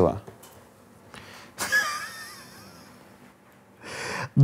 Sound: wheezes

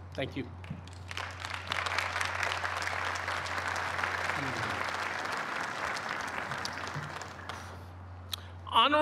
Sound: applause

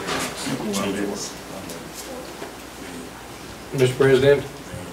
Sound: overlapping chattering

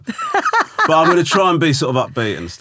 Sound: laughing

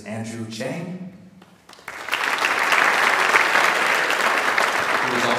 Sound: audience applauds

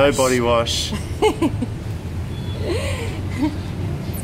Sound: laughing

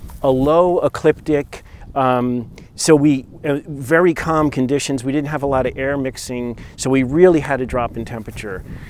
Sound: none

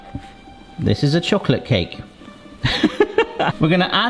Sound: laughs

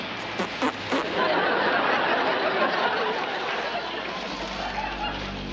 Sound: audience laughter

